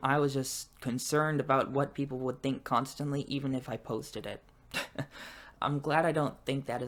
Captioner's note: laughs